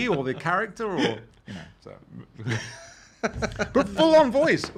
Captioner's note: laughing